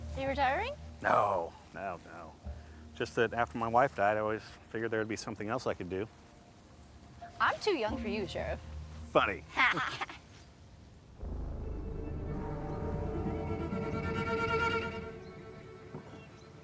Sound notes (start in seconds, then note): 10.4 both laugh; 11.2 tense music